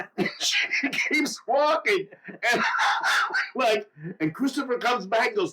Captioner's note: laughs